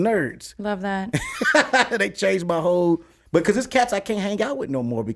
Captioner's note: laughs